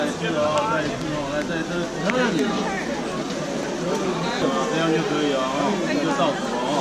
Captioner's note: speaking in Mandarin